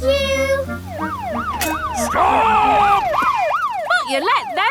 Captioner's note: siren wailing